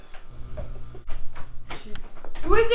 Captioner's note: door opening